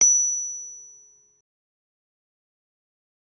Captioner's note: bell rings